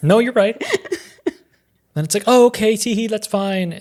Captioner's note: chuckling